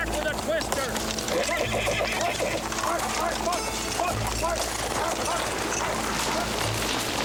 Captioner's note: horses neighing; man wailing